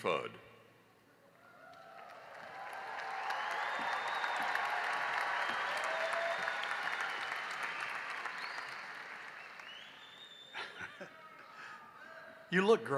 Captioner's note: cheering and applause